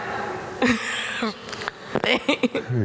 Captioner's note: audience laughing